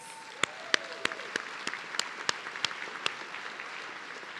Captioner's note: audience cheering